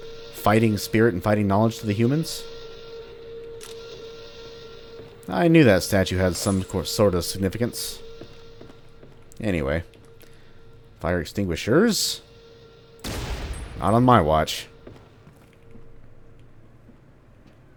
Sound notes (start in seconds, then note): 13.0 pew